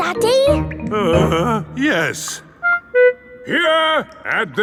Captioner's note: groans